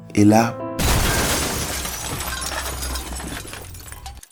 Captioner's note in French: Bruitage d'accident